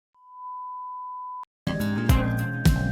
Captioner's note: beeps